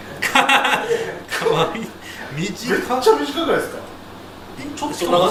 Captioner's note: laughs